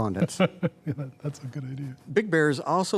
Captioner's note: laughter